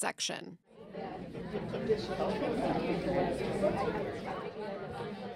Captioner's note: parents chattering